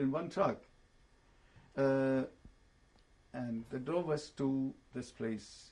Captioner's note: pauses for 3 seconds